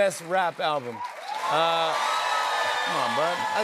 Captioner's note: cheers and applause